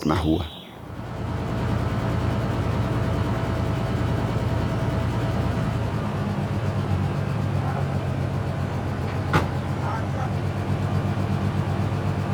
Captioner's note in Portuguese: som de motor